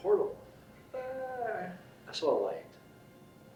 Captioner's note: groans